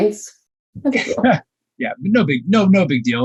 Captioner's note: laughing